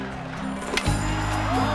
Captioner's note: cheering